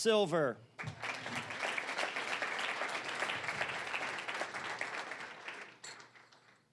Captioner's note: applause